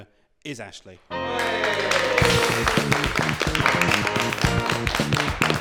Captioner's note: applause and cheers